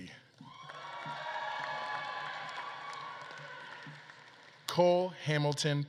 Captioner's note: audience claps and cheers